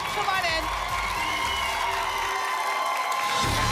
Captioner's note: applause and cheering